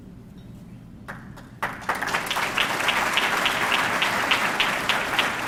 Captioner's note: audience clapping